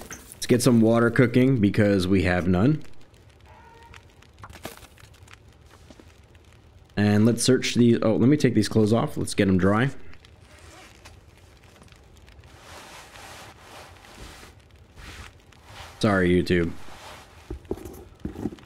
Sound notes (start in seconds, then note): 4.5 fire Crackles; 12.2 bag Zips Open